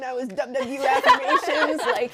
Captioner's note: all laughing